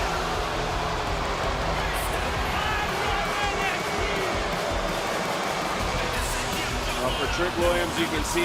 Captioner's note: crowd boos